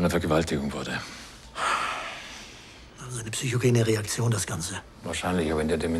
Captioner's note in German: seufzend